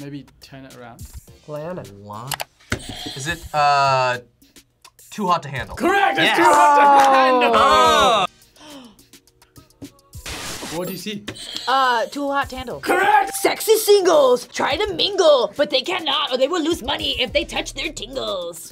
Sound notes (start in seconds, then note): 2.8 buzzer rings; 8.5 gasps; 10.4 static crackles; 11.4 buzzer rings